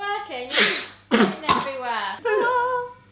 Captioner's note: chokes